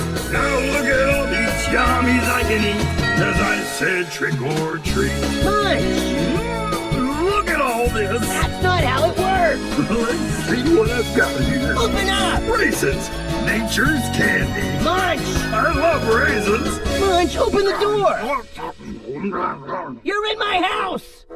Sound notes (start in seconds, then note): 18.4 sounds of Munch nomming up the candy